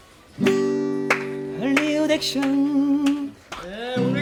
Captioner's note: clapping for impromptu performance